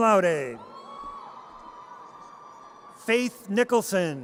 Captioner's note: audience cheers